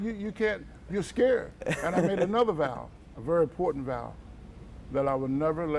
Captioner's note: laughter